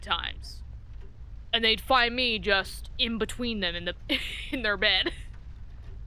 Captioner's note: laughs